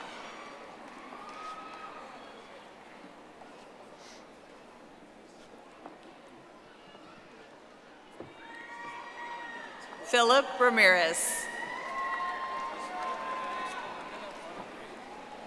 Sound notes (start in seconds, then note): 4.0 audience applauding; 15.2 audience applauding